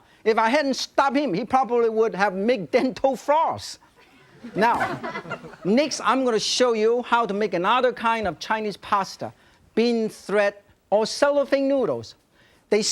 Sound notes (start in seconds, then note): 4.0 audience giggling